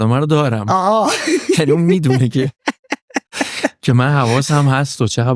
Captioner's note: laughs